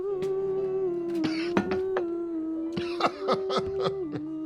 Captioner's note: coughing